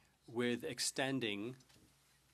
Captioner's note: speaking French